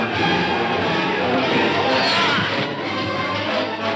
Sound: groaning

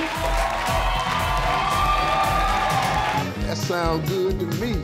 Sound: audience clapping; rhythmic music; audience cheering; bright, upbeat music

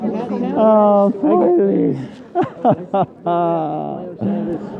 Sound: sobbing

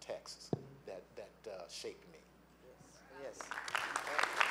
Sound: applause

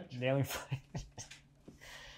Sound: laughing

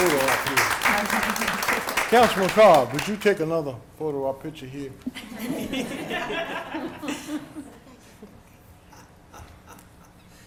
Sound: applause

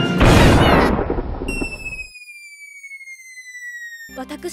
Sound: cartoonish falling down noises

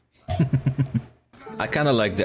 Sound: laughs

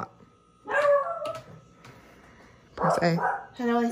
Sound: Lemonade barks

